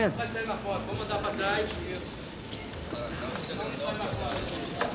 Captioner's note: speaking Portuguese